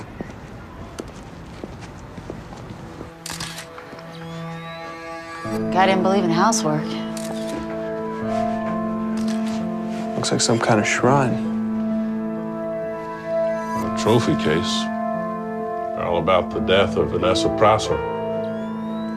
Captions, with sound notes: [camera shutter clicks] Guy didn't believe in housework. Looks like some kind of shrine. Or trophy case. 'They're all about the death of Vanessa Prosser.'